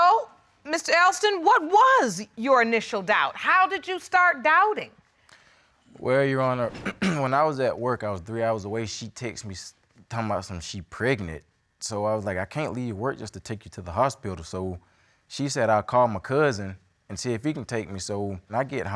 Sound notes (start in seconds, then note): 6.7 clears throat